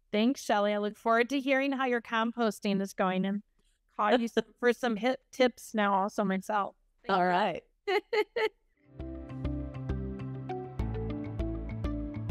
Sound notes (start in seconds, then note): 7.9 laughs; 8.9 gentle upbeat music